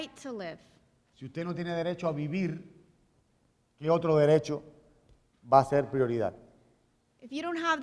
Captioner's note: speaking in Spanish